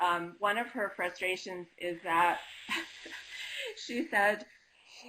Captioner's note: laughing